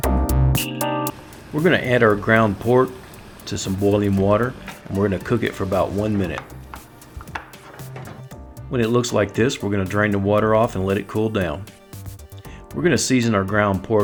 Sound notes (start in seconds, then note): 0.0 jazzy music; 1.5 voiceover